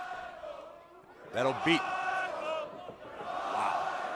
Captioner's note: fans chanting